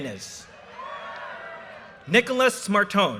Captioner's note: audience cheers and applause